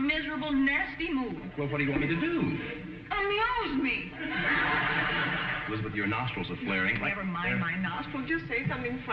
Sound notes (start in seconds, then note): 4.1 audience laughing